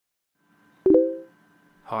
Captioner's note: Facebook message sound